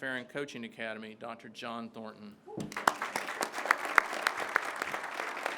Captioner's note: crowd claps